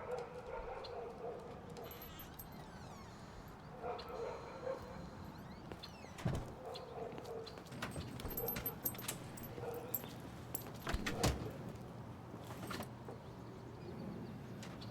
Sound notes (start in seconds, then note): 0.0 birds chirping; 0.0 distant dog barking; 0.3 door creaks; 6.0 door lightly bangs; 6.4 footfalls clicking; 7.6 dog tags jingling; 7.8 door latch clicks